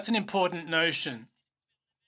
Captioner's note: speaking in French